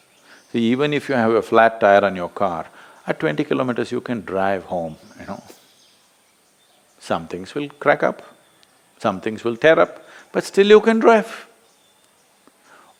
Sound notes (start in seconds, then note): 6.0 laughs